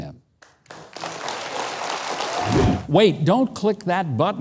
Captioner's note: audience applauding